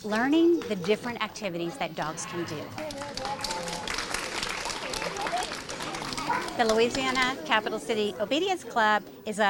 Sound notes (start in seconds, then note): 2.7 audience applauding